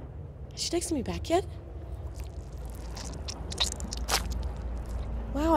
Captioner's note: squishy sound